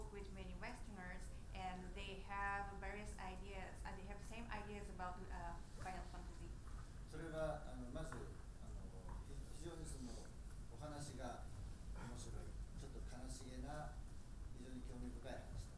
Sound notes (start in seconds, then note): 7.4 speaking in foreign language